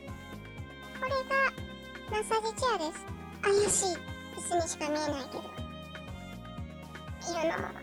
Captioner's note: laugh